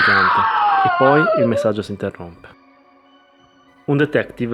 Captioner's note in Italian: urlo